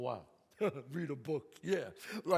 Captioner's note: chuckles